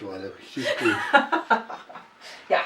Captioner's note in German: lacht